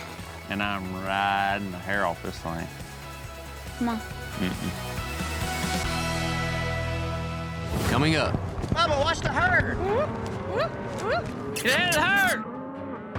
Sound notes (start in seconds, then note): 11.5 squeaky sounds